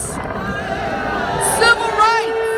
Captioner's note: crowd boos